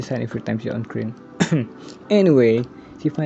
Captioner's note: cough